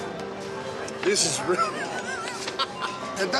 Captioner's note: laughs